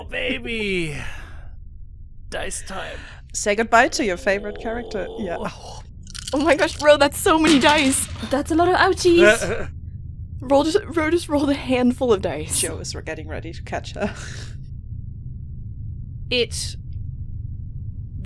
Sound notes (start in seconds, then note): 0.0 whispering; 6.1 lots of dice clacks. SO MANY DICE; 14.9 laughs; 15.4 the low hum continues to build in the background